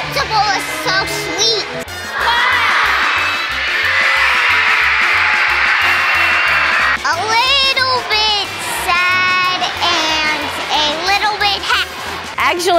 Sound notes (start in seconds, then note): 2.0 cheering